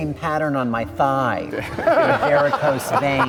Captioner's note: audience laughs; laughs